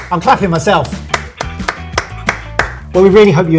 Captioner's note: all applauding